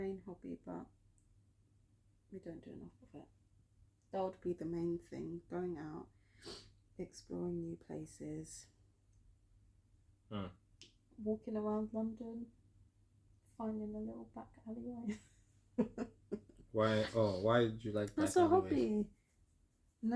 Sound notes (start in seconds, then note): 15.7 laughter